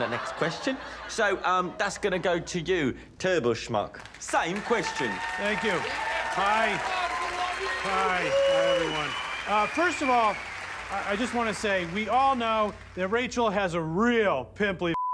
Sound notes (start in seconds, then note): 4.8 audience cheers, applauds